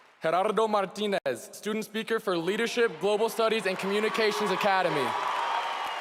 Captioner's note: cheering and applause